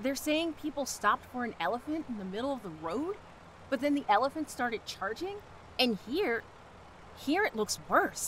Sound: none

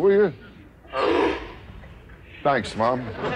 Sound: seal barks

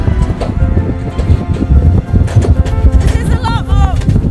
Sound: clanking

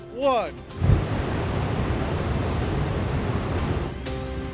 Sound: fire whooshing

